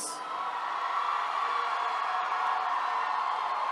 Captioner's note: attendees cheering